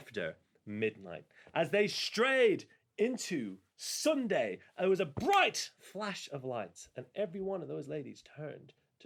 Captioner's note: handclap